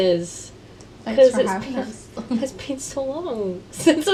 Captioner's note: laughter